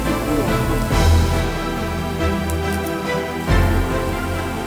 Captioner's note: cough, cough